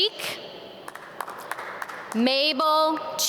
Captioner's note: audience clap